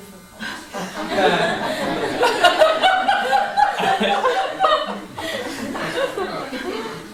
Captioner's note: laughter